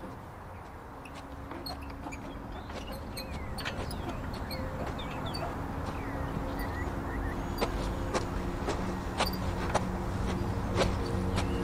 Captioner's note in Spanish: Sonido ambiente parque